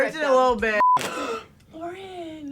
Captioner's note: clothing tears; gasp